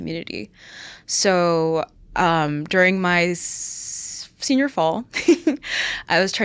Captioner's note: chuckles